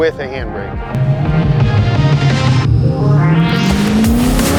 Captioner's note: car engine revving